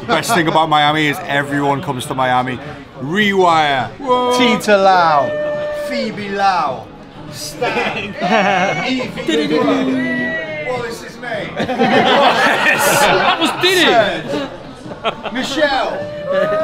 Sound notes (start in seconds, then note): 11.4 group laughs